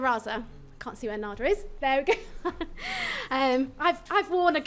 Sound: chuckles

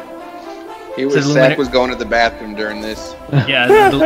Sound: laughs

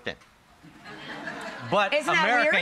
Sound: audience laughs

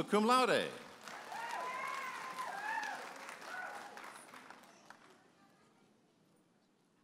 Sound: audience applauding and cheering

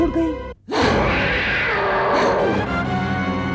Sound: grunting

